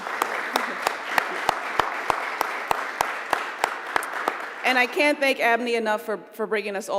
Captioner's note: applause